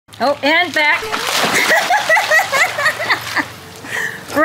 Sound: laughs

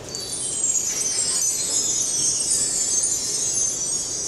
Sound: chimes trilling

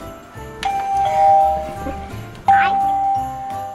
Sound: doorbell chiming

